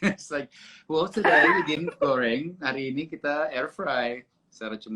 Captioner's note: imitating Nana